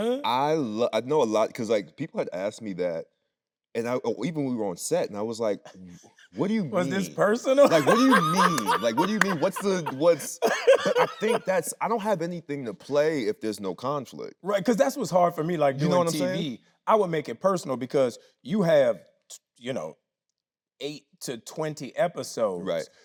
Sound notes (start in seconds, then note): 7.6 laughing; 10.1 Anthony laughing